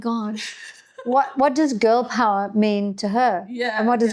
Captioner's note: laughing